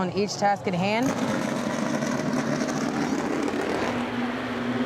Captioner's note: cars roaring